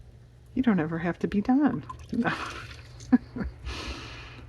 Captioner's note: laughs